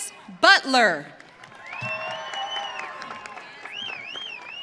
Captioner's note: audience cheering